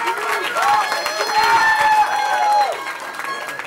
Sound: cheering

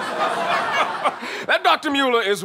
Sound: judge laughing

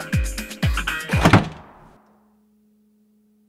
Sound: door slam

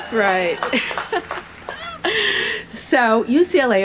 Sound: laughs

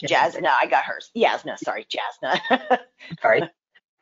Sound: chuckles

